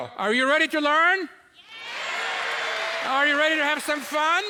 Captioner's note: audience cheering